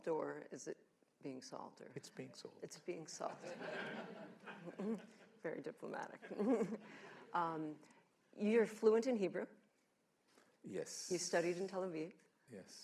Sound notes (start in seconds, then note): 3.3 laughter